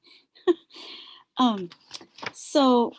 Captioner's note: laughs